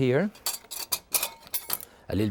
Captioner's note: knife clinking